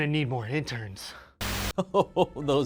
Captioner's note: camera static; amused laughter